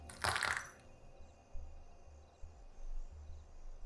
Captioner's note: object rattles